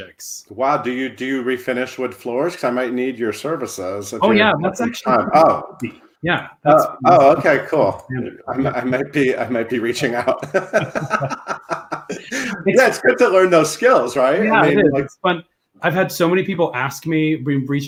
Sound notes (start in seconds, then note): 8.3 laughing; 10.4 chuckles